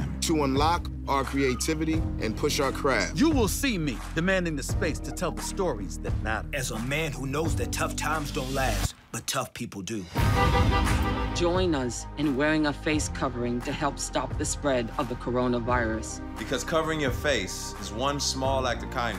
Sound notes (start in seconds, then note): 10.2 car honking